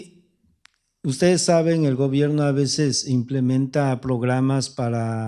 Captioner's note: speaking spanish